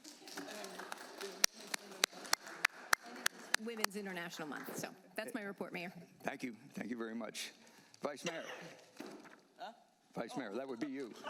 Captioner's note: applause